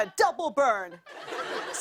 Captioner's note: laughter